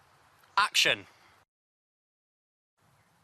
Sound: deep breath

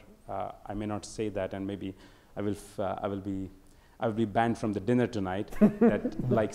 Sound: audience laughter

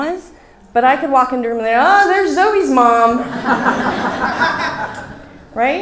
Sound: laughs from audience

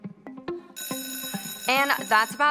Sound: school bell rings

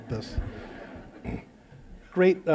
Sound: laughter

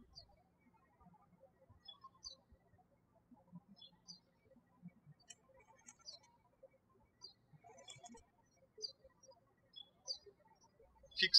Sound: birds chirping

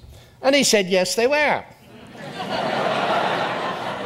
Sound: audience laughs

